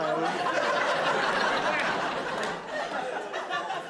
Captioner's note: audience laughing